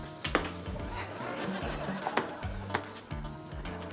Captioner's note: laughter